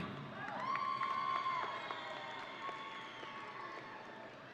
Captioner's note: audience cheering